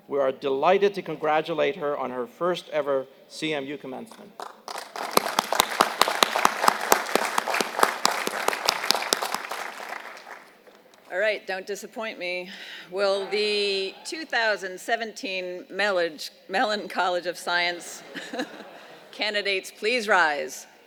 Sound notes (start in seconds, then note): 4.3 applause; 18.0 laugh